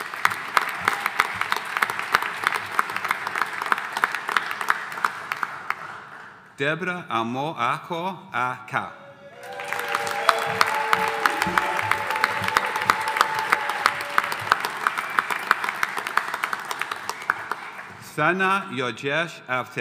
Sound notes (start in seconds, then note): 0.0 audience applauding; 9.3 audience applauding